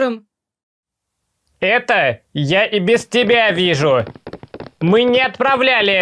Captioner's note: steps